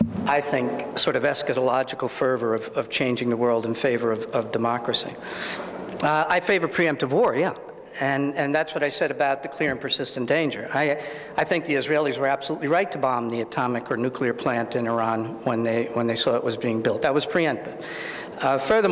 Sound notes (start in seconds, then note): none